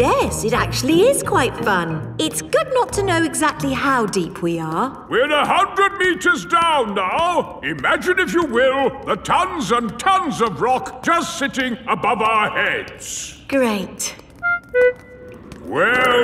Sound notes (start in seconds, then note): none